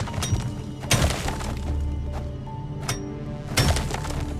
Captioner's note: pick ax clanging